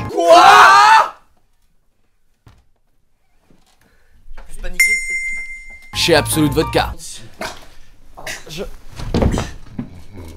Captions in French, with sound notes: Ouaaaa ! *Cling* Chez Absolut Vodka